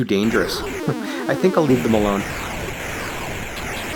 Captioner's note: chuckles